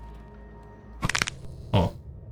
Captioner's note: gun cocks